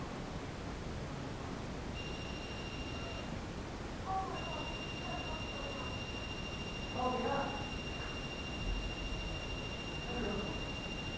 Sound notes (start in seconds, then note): 2.0 beeping